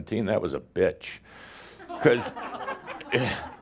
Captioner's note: some laughter